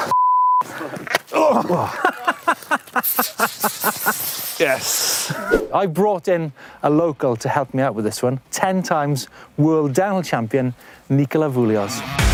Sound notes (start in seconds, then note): 2.2 laughs